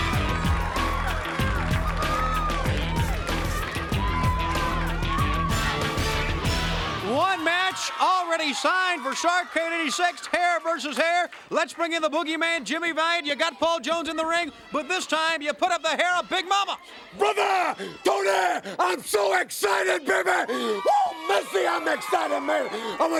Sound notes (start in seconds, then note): 0.0 upbeat rock music; 0.2 crowd claps and cheers